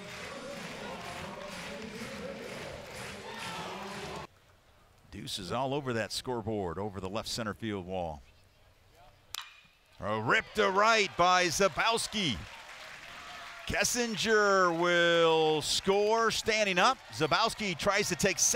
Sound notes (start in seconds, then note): 0.0 crowd clapping; 9.3 ball hitting bat